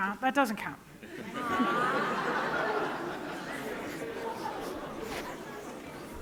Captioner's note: laughter